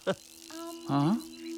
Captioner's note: humming